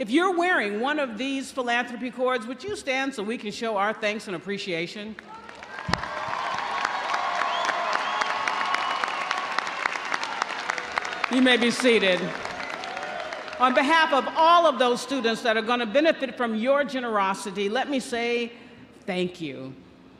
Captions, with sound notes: If you're wearing one of these philanthropy cords, would you stand so we can show our thanks and appreciation? (audience cheering) (audience applauding) You may be seated. On behalf of all of those students that are gonna benefit from your generosity, let me say thank you.